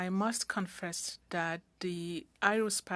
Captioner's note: speaking french